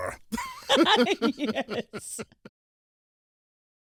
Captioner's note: both laugh